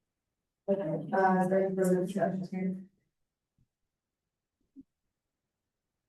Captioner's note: board members chattering indistinctly